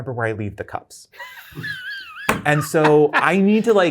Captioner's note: guy laughs